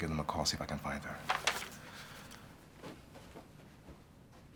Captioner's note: pages rustling